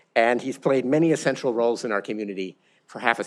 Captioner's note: none